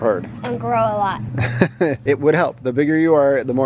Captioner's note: laughs